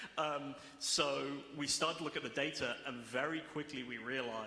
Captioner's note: laughter